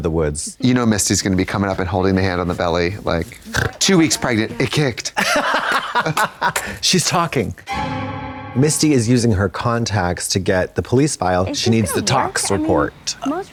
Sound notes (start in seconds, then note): 5.5 Katya guffaws; 7.6 eerie tone